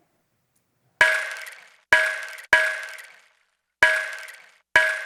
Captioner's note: rain stick banging